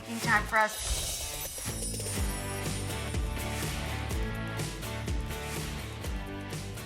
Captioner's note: upbeat music; wind chimes clink